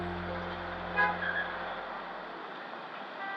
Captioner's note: car horn honks